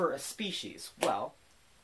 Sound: clap

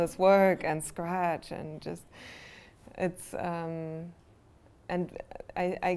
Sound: draws breath

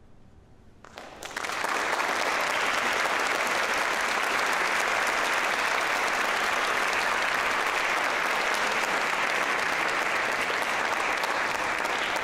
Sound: applause

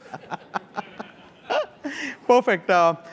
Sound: laughter

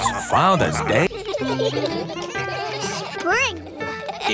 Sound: giggling

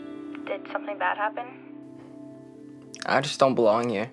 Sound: voice On Phone

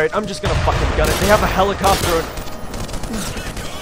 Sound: explosion

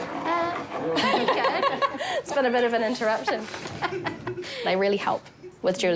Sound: laughs

